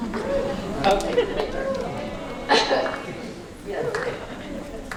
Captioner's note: sarcastic cheer from audience